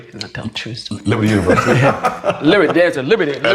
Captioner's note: laughs